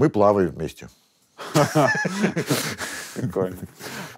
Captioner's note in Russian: оба смеются